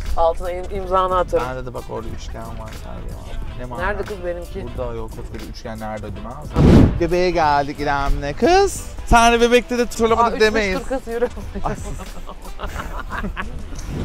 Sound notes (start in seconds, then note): 10.1 laughs; 12.6 evil laugh